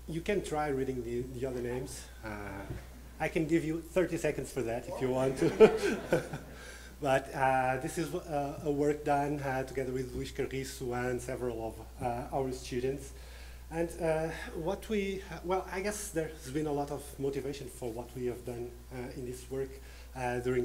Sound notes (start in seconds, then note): 4.8 laughing